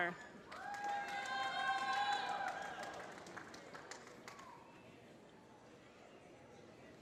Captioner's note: applause